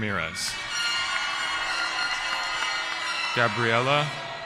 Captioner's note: cheering